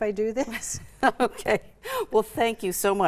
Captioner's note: chuckle